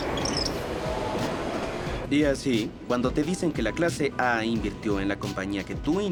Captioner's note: voiceover